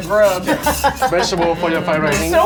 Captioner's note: laughing